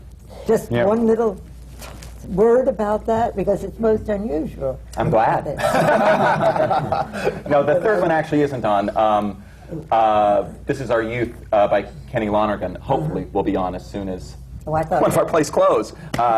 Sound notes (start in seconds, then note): 5.6 laughter